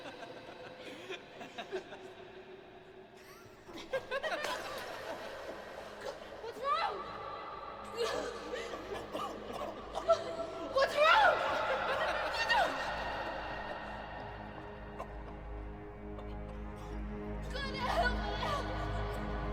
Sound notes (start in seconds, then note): 7.7 cries; 8.4 boy chokes; 15.1 boy continues choking